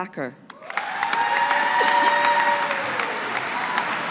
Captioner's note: audience applauding